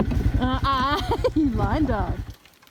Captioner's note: laughs